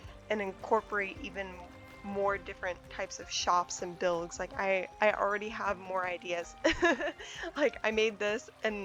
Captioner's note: laughs